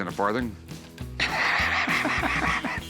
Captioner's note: laughs